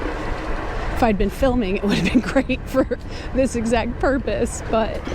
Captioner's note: chuckling